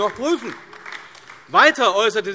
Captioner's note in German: Beifall AfD